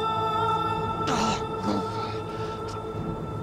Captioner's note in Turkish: İnilti sesi